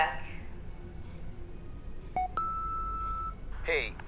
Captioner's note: answer machine beeping